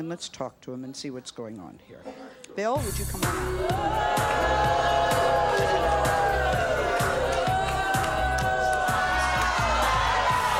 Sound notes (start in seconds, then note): 3.4 crowd booing; 4.3 upbeat music